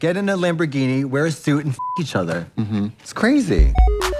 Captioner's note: beep